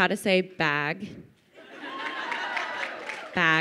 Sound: crowd laughing

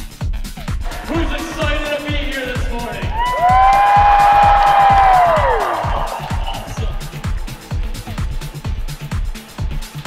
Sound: cheers

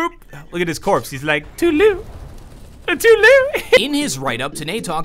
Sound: giggle

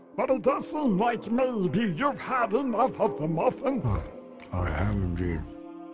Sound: chewing noises

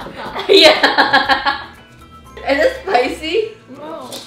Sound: laughing

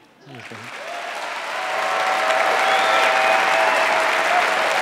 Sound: audience cheering

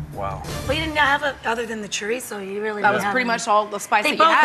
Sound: none

